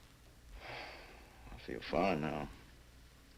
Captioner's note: sighs